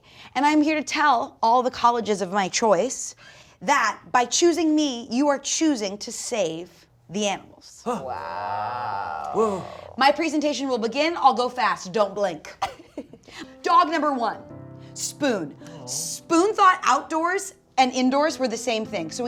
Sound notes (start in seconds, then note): 7.8 Dumpster Wizard gasping; 12.6 chuckling; 14.7 soft music begins; 15.9 swooning